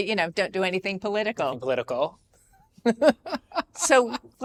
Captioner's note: laughs